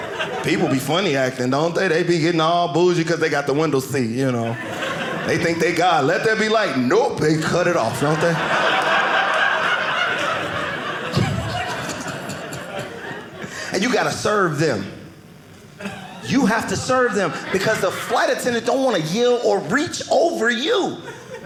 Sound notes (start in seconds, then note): 7.3 audience laughing